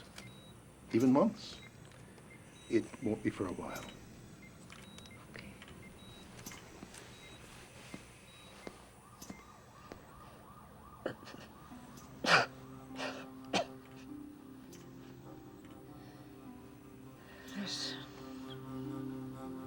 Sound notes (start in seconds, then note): 11.3 coughs; 17.2 murmuring